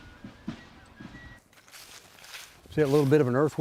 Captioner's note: leaves crunching